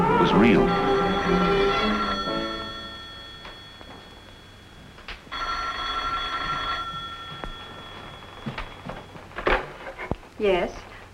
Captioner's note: phone rings